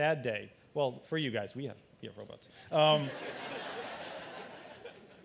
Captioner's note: laughter